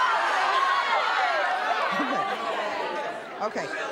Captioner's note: audience outrage